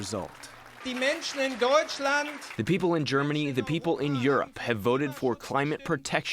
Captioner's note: through translator